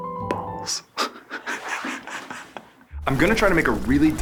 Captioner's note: laughs